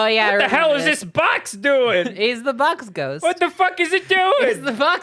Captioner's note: goofy dude voice